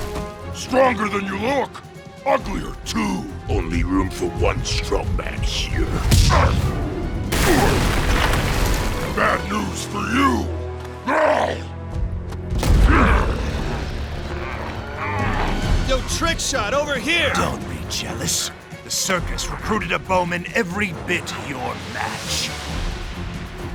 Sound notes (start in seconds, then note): 6.0 wincing; 11.1 growling